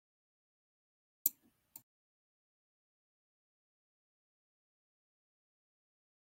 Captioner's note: silence